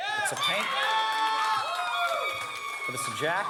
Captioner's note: crowd cheering